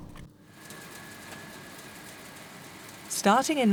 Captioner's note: machines clicking